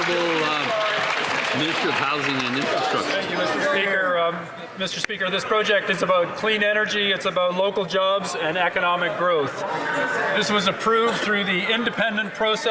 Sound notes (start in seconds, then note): 1.9 applause